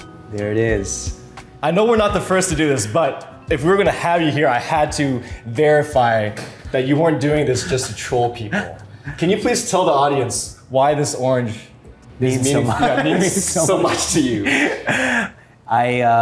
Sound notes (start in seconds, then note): 14.4 both laughing